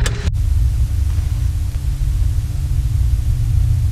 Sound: static hisses; dissonant music

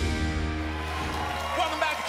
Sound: applause

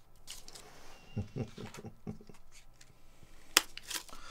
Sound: Chad chuckles

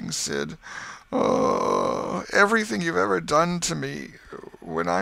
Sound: groan

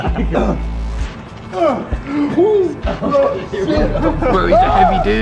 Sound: grunting

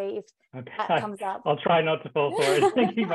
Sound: laughing

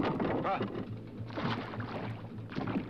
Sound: water splashes

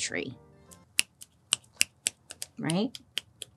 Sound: fingers snapping

